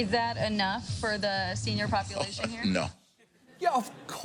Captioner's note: chuckles